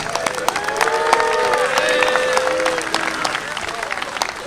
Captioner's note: audience applauding